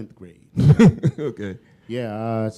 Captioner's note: chuckle